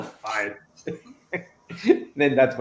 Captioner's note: soft chuckle